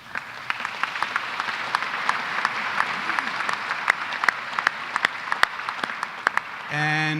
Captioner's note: applause